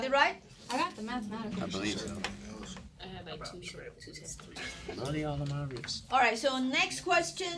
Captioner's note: students murmur